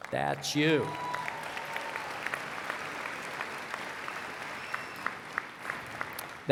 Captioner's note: applause